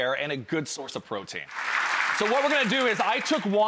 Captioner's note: audience applause